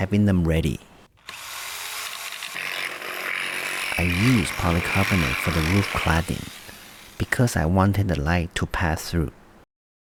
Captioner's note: power tool